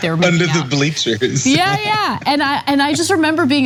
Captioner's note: laugh